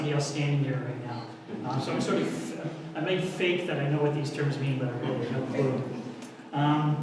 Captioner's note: audience laughter